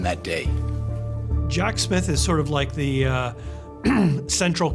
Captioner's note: clears throat